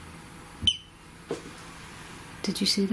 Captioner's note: beep